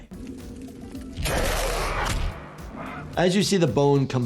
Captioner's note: monster screams